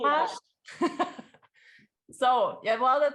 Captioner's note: laughing